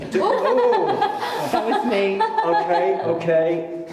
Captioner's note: laughing